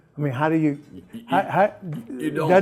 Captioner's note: laughs